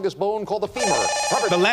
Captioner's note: beep